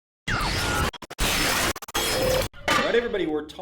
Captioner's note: distressed signal